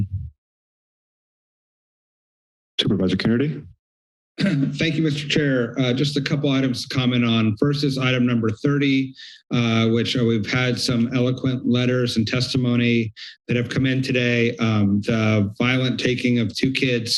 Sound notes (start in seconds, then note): 0.3 silence; 4.4 clears throat